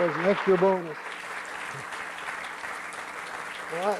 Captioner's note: applause